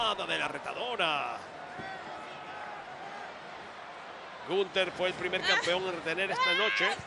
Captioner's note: applause